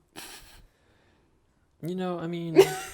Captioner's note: laughs